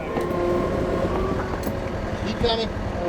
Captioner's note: engine revving